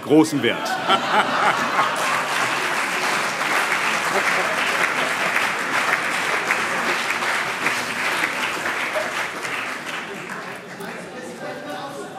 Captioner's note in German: Heiterkeit und Beifall - : Präsident aus Frankfurt!